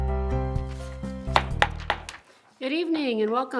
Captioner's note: gavel bangs